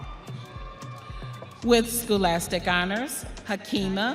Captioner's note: audience cheering